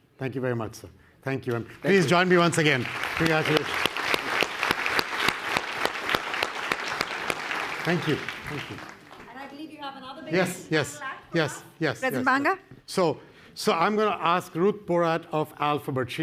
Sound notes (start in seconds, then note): 7.9 audience applause